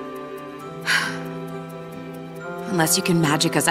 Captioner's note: sighs